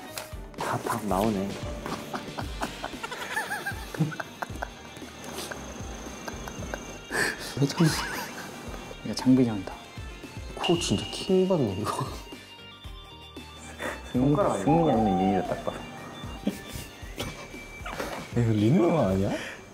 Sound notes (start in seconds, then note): 16.1 laughing